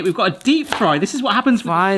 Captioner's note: knife chops